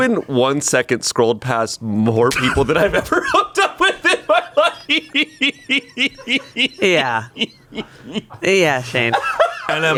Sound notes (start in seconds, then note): 6.4 laughs